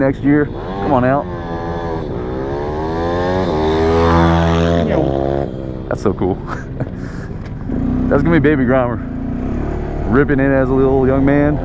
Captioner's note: motorcycle motor revving